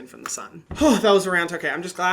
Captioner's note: sighing